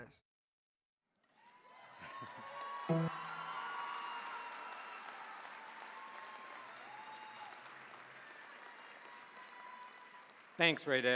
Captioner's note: cheering, applause